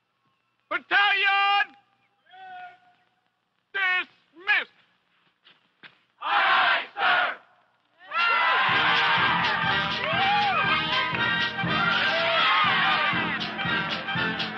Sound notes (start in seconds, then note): 8.0 cheering; 8.6 upbeat military music